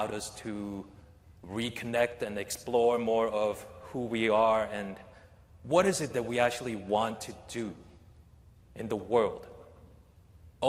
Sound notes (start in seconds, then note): none